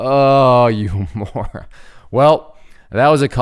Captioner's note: laughing